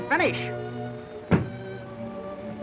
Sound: thud

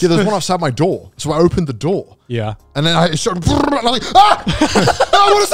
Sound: yells

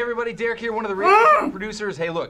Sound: groans

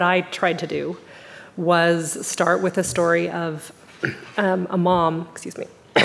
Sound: coughing

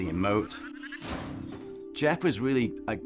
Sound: crashes

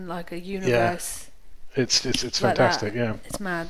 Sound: snaps fingers

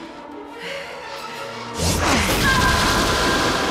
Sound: screams

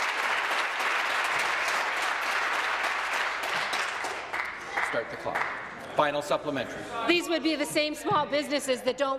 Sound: applause

